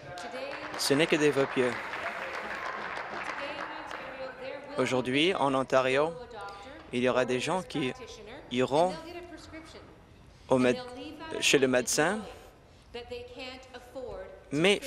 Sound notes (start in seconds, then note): 0.0 applause; 5.8 applause